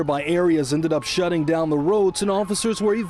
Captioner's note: sirens